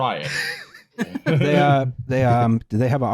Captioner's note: laughter